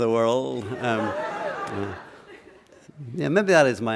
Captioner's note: laughter